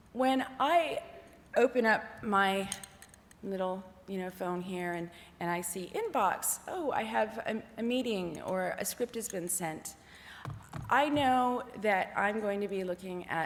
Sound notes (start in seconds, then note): none